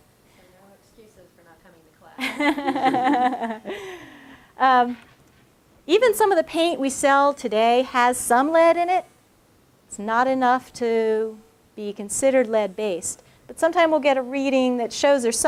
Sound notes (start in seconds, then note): 2.2 laughter